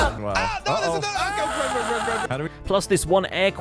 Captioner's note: shouts; group commotion; screams